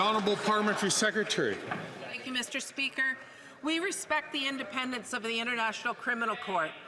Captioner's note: some Applause